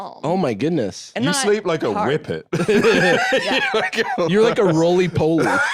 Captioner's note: both laughing